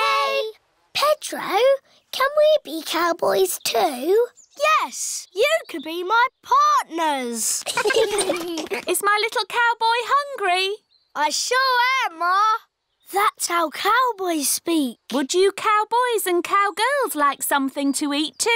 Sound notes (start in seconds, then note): 7.6 all giggling